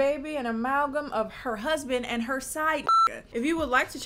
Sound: beep

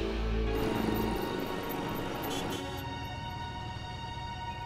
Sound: dialogue’s playing over radio

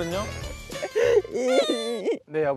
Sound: wahhh

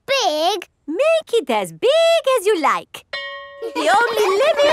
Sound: school bell rings; children laughing

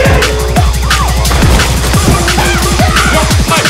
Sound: door crashes; woman continues shouting

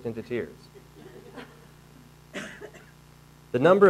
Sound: audience laughing

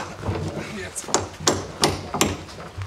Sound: banging

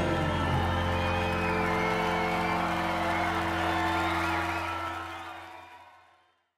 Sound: audience cheering; audience applauding

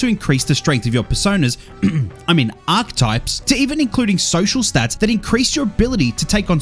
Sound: ahem

